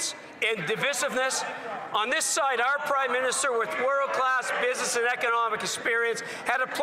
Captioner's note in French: voix de l'interprète